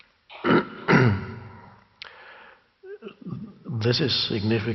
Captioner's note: clearing throat